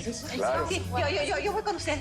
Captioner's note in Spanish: Hablan al unísono